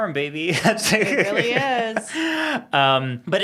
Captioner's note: laughs